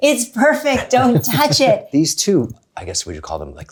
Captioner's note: laughs